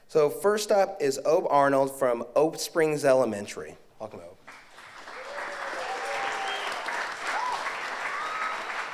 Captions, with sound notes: So first up is O Arnold from Oak Springs Elementary. Welcome O. (audience applauds)